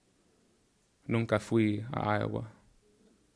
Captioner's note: speaking in Spanish